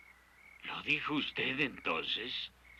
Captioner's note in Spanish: none